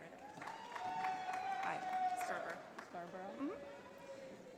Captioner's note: audience applauding